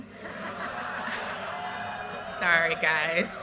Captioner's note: audience laughter